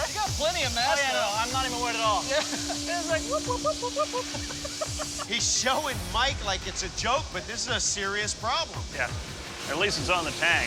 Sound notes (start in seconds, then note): 3.4 laughing